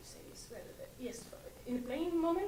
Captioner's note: mumbling to self